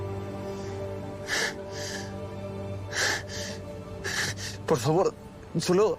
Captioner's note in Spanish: Sollozos